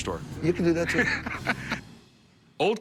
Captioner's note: rick laughs